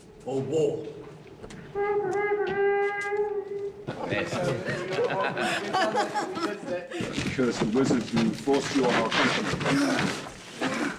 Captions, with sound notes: ...or war? [HORN BLOWS] [ALL CHUCKLING] I curse the wizards who forced you on our countrymen.